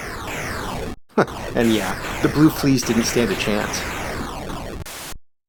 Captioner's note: chuckles